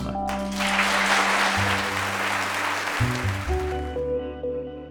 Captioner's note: audience applauding; calming music